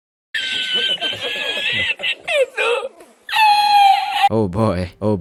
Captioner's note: le funni laugh